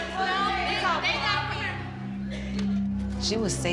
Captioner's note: shouting